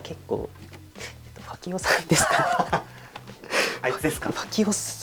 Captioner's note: laughs